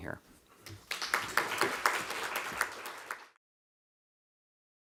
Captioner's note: audience applauding